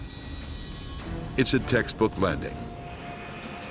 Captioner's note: voiceover